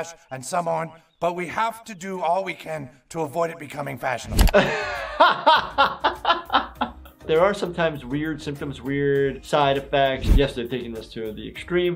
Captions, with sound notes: and some aren't, but we have to do all we can to avoid it becoming fashionable. - (laughs) There are sometimes weird symptoms, weird side effects. Yes, they're taking this to the extreme,